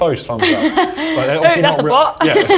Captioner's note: laughs